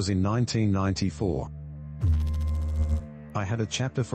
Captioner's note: electrical noise